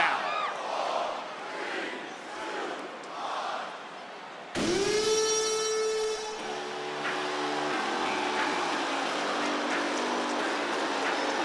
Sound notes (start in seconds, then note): 4.6 horn blares; 6.8 rock music plays; 8.8 crowd cheers